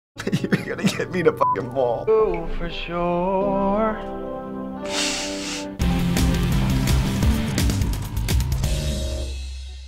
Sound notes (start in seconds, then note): 0.1 choked up; 4.8 sniffling; 5.7 industrial music